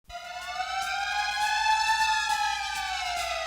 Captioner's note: siren